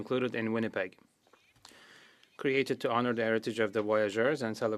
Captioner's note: speaking French